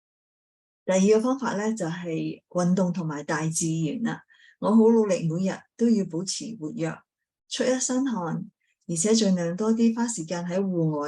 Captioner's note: speaking chinese